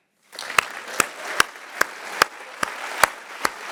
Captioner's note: all clapping